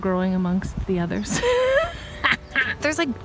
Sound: laughs

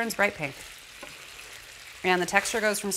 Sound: sizzling

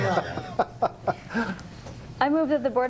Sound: laughter

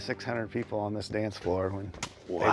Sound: none

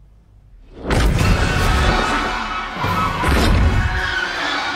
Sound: ghostly grunts

